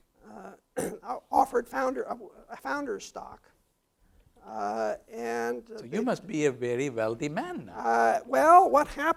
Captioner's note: cough